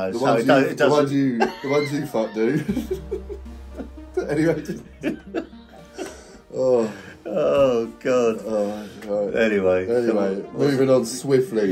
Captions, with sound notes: so don't- - The ones you fuck do. (both laughing) - Oh. - Oh god. Anyway. - Anyway. Moving on swiftly.